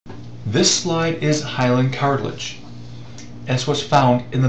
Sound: voiceover

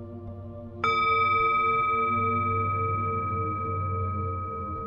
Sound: bowl rings

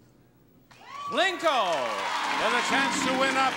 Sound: audience clapping

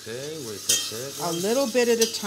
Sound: italian

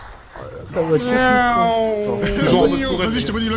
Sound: nyooooooom

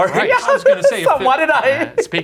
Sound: laughing

